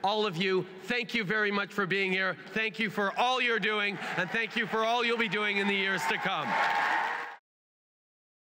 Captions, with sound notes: All of you, thank you very much for being here. Thank you for all you are doing and thank you for all you’ll be doing in the years to come. (Cheers & applause)